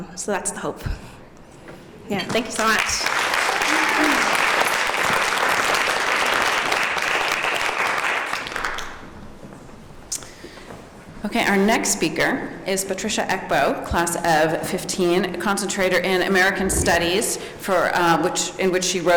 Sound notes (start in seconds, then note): 2.3 applause